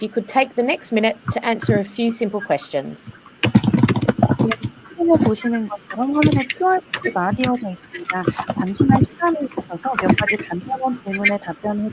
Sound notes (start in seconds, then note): 5.6 speaking korean